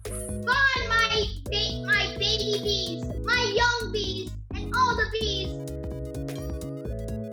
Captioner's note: excited